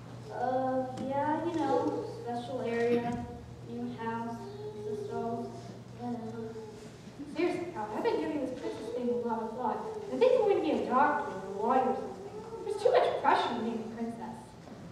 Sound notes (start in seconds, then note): none